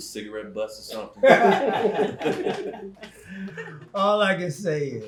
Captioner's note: group laughing